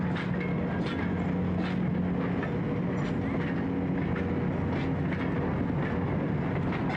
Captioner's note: train rumbling